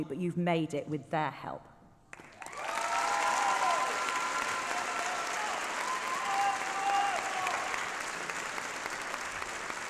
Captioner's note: applause